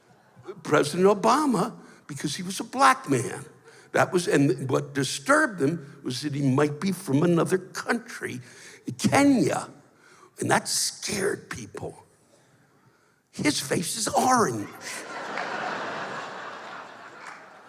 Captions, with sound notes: President Obama because he was a Black man. That was-- And what disturbed him, was that he might be from another country. Kenya. And that scared people. His face is orange! [laughter]